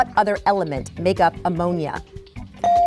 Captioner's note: bell dings